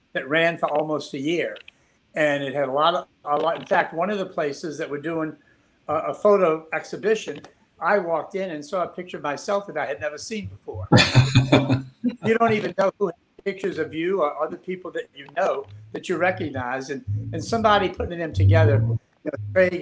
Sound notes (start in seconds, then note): 10.9 all laughing